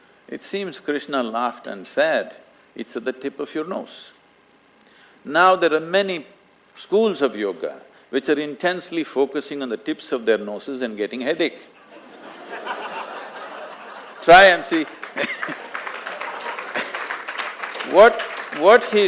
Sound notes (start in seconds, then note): 11.8 laughter; 14.6 applause; 14.8 laughs